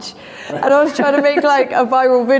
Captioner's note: laughing